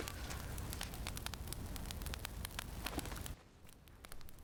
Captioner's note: fire crackling